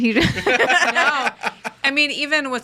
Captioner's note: group laughs